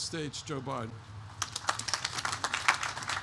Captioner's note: applause